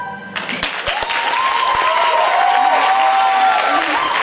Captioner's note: applause